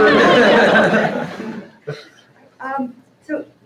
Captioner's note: laughter